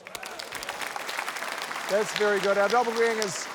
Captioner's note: cheering, applause